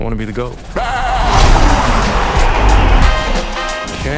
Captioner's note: making goat sounds